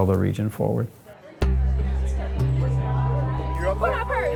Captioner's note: people chattering; gentle music